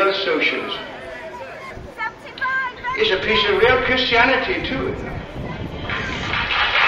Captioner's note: applause